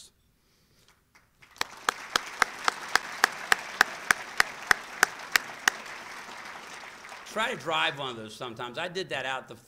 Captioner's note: applause